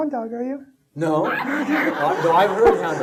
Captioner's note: audience laughing